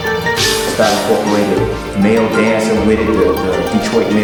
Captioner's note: voiceover